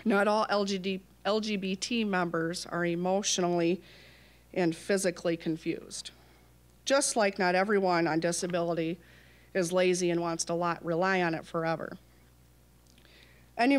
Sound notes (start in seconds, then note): none